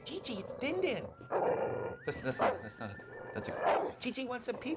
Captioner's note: growling; snarls